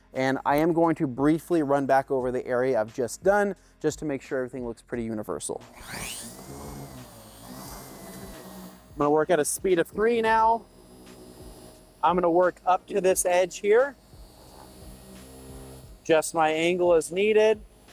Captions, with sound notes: And I am going to briefly run back over the area I've just done, just to make sure everything looks pretty universal. (machine whirring) I'm gonna work at a speed of three now. I'm gonna work up to this edge here. Just my angle is needed.